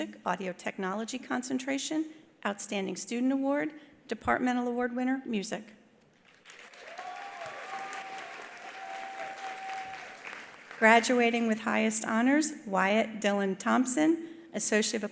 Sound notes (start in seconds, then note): 6.2 attendees applauding; 6.6 attendees cheering